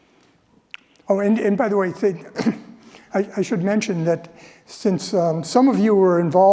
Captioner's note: cough